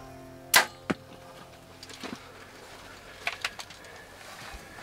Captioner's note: bow cracking